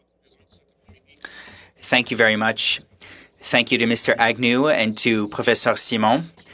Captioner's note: speaking French